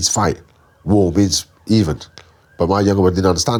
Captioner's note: speaks Chinese